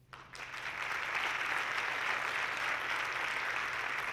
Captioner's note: audience clapping